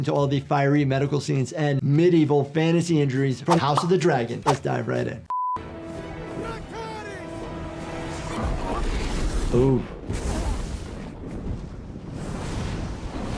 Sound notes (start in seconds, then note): 5.2 test pattern beeping; 5.7 stirring music; 8.6 Sunfyre snarling; 10.4 flames roaring